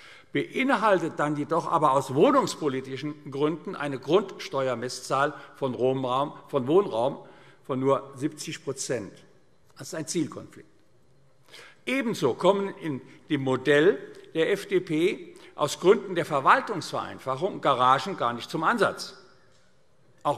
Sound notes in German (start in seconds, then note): none